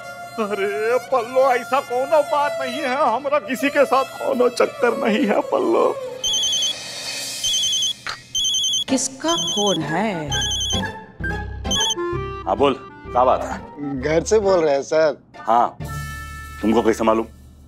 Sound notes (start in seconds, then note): 6.2 phone rings